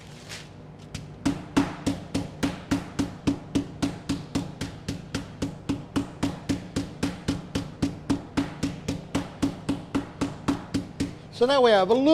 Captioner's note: contstant pounding